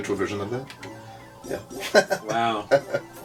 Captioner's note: laughs